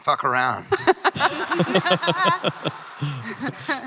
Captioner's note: crowd laughing